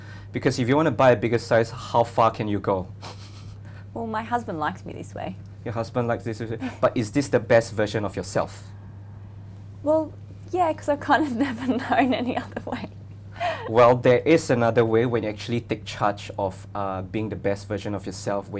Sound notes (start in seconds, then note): 3.0 chuckles; 6.6 woman laughs; 11.3 laughs